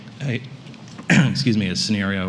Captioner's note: coughs